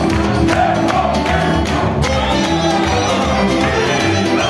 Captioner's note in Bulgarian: аплодисменти